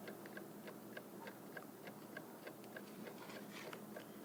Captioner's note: clock ticking